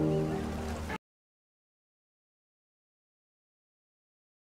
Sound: man preaching

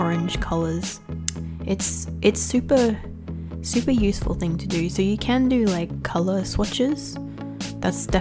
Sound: click

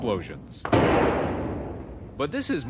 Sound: explosion sounding

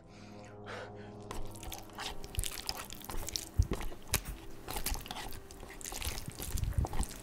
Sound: squishy chewing goes on and on

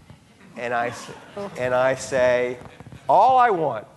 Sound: audience laughing

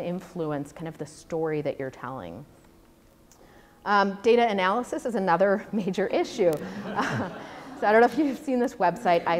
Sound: audience laughter

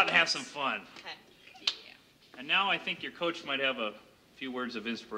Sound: women applauding; women cheering

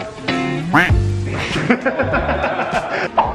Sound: quack sound; laughing

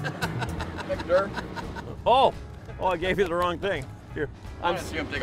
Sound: laughing

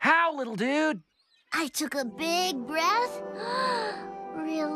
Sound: inhales

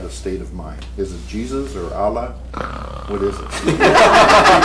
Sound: snore; laughter

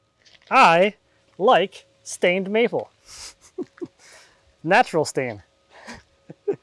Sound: laughs

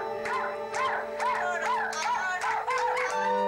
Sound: adults clapping - and cheering

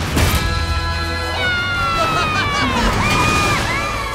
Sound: cheering

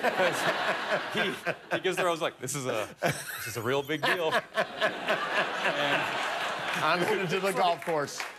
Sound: laughter

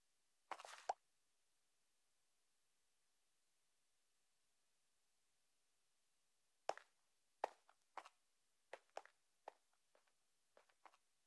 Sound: silence

